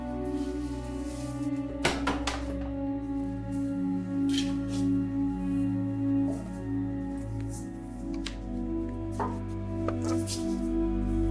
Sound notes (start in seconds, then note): 1.8 book thudding; 5.7 light eerie music continues